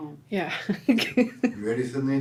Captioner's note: laughs